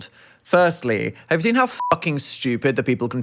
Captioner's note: beep